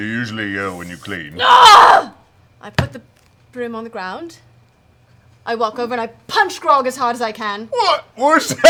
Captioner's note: groans